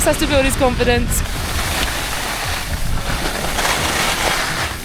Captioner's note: skis scrape